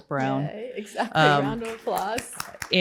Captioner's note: applause